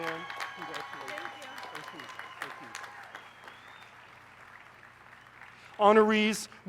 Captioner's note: applause